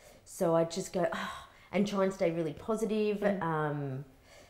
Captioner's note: sighs